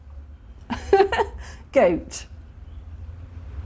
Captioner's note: laughing